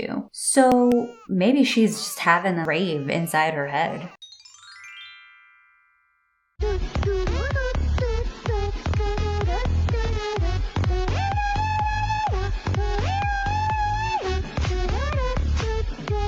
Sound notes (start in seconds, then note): 4.1 ascending chime; 6.6 girl humming along to house music